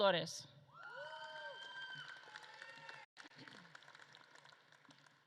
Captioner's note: audience claps and cheers